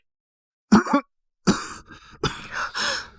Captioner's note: cough cough cough